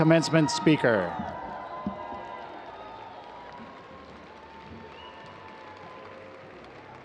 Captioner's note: audience cheers